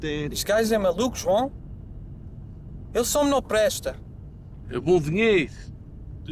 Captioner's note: group speaking in foreign language